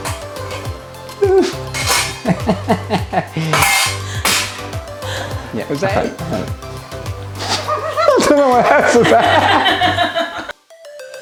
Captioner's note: laughter